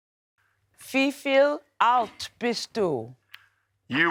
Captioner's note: speaks german